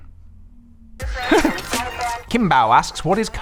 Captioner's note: laughs